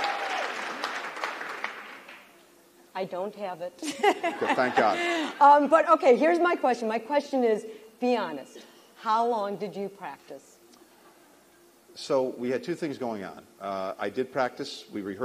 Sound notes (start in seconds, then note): 3.8 laughter